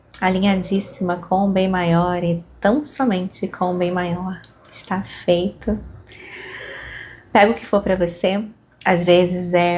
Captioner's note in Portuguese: suspirando